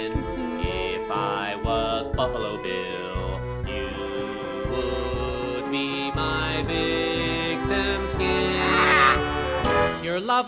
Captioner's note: gags